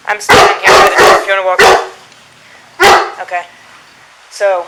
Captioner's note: between noise from dog